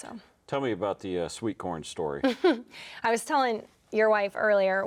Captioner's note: chuckles